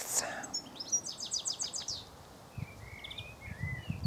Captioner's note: birds chirping